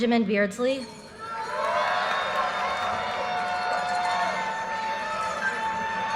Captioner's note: audience cheers and applause